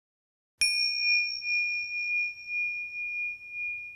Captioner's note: bell dings